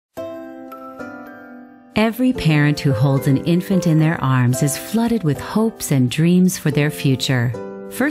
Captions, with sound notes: (sedate music) - [Voiceover] Every parent who holds an infant in their arms is flooded with hopes and dreams for their future.